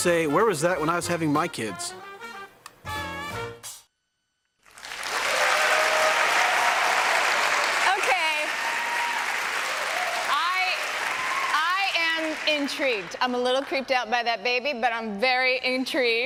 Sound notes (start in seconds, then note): 4.8 applause